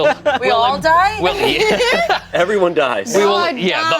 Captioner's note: group laughs